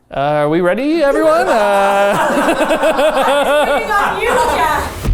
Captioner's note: everyone laughing